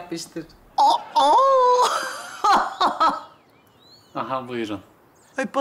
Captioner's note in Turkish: Gülme sesi